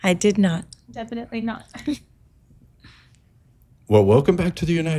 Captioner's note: chuckles